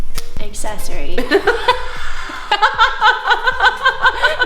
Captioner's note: upbeat music; laughing